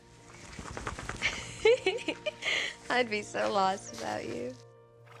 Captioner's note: laughs